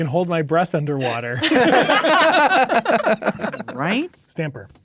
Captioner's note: players laughing